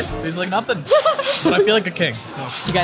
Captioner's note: laughs